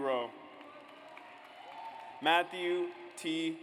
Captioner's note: audience applauds